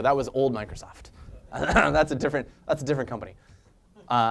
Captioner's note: laugh